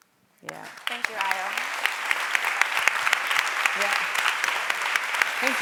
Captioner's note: applause